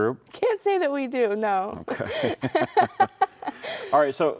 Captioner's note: both laughing